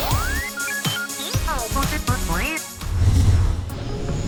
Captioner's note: beeping